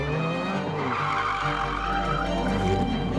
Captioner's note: tyres screeching